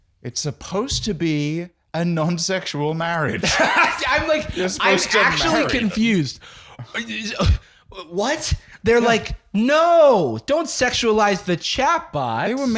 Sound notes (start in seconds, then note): 6.8 incredulous stammering